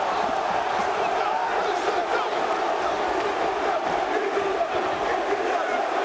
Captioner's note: spectators chanting "ECW!"